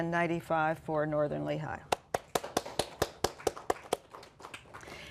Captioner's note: applause